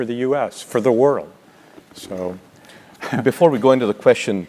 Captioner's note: laugh